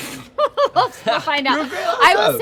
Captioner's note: laughs